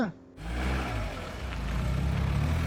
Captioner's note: car drives off